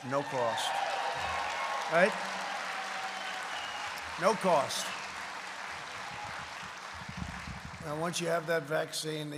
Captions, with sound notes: No cost. (applause) Right? No cost. And once you have that vaccine --